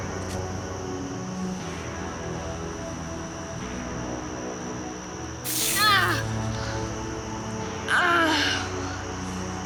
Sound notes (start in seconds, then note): 5.4 object hisses; 5.9 Jack yelps